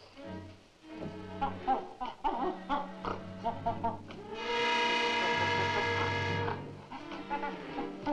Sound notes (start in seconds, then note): 1.2 gorilla chittering; 4.2 dramatic music